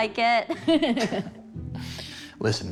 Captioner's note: laughs